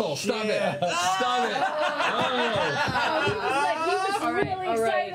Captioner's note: laughter